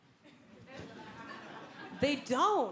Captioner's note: audience laughing